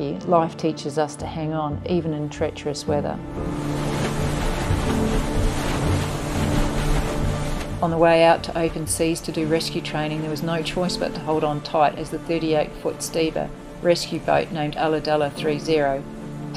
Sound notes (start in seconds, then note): 3.9 wave crashes